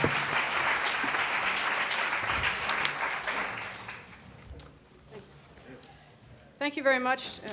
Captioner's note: applause